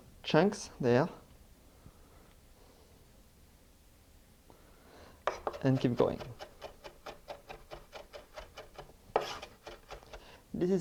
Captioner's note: mincing sounds